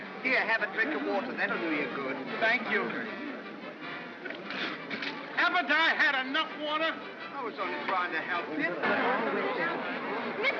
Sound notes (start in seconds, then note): 4.2 spits